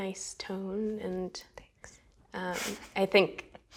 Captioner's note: whispering